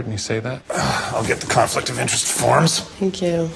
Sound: sighs

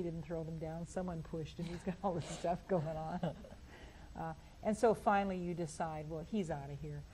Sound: laughs

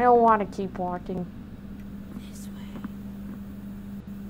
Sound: whispers of doom

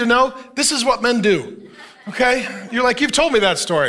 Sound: congregation laughing

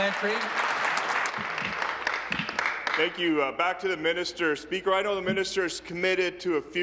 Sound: applause

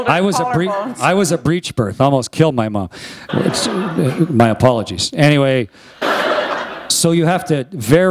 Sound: laughter

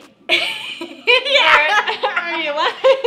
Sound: loud laughter

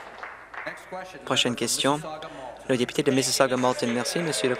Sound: applause

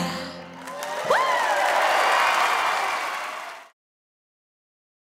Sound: audience cheering

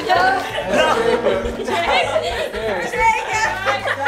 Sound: family laughing

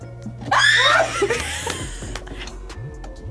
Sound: screams; both laugh

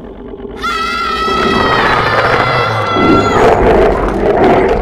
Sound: screams

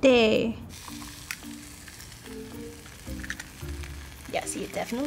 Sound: pan sizzles

